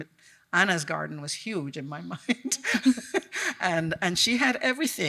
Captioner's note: chuckles